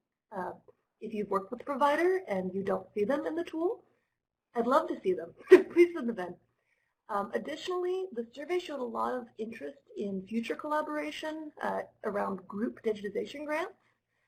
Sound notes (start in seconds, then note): 5.4 laughter